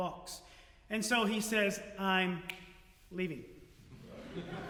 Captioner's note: snap; audience Laughter